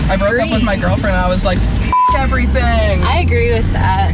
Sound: beep

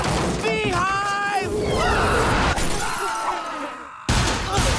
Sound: screaming

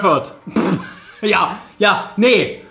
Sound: laughs; snorts

